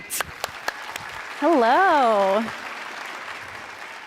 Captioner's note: audience applauds